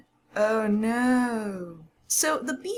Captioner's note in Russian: саркастично